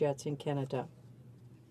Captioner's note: speaking french